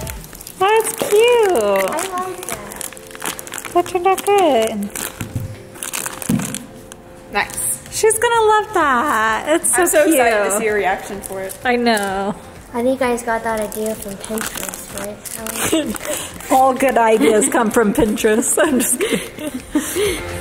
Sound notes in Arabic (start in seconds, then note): 15.7 ضحكات خافتة